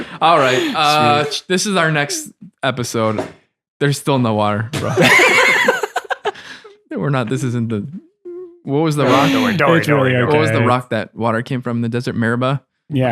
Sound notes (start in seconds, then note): 0.0 laughing; 4.8 all laughing